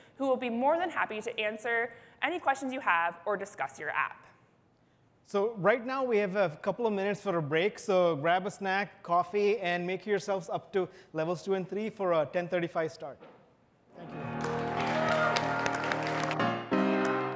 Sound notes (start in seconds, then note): 14.0 audience applauding; 16.0 upbeat music